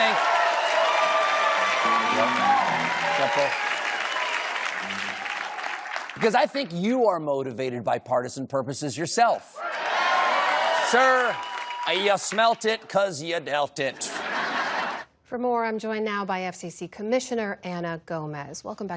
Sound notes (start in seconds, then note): 0.0 cheering; 9.5 cheering; 13.9 laughter